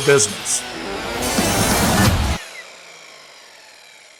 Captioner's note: saw revving